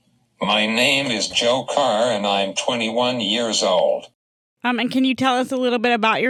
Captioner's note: voiceover